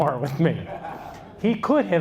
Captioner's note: audience laughs